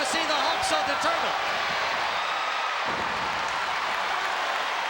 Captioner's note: crowd yelling